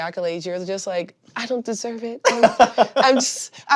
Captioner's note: chuckles